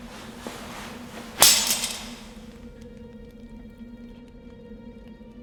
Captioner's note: sword rattles